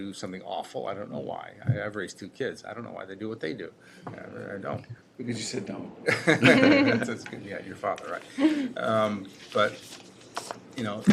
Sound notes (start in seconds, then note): 6.0 laughter